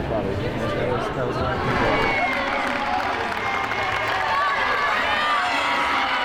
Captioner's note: audience cheering